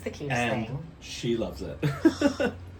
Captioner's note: laughs